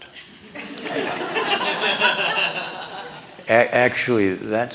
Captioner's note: laughter